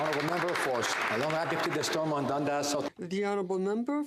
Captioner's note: some Applause